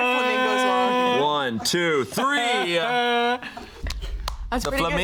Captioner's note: fakes crying